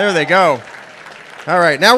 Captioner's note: applause